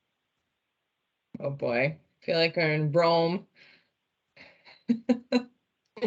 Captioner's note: chuckles